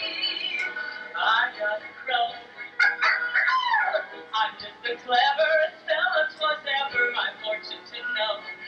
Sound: imitates crow

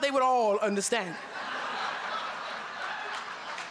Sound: laughter

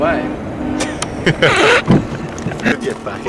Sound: laughs

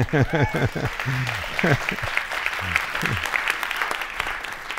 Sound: audience applauding

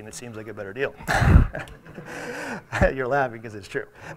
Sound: audience laughs

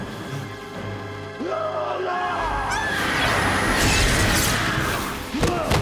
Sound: screaming

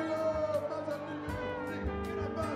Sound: indistinct cheering; soft music continues to play

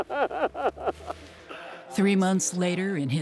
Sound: laughs

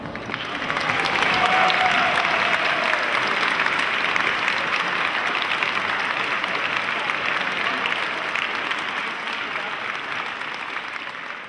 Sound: applause

